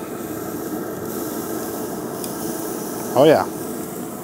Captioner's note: steak sizzles